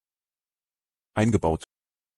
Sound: fast Pronunciation

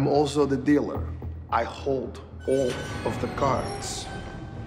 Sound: door rattles

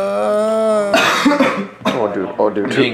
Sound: coughs

